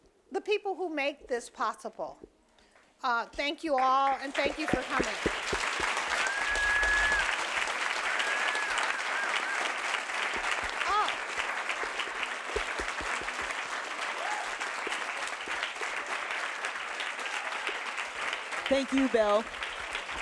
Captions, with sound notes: the people who make this possible. Thank you all, (audience applauding) and thank you for coming. (audience whistling) - Thank you, Bell.